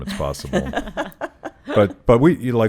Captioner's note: laughing